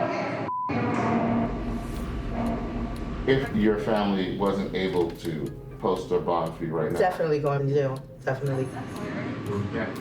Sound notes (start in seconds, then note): none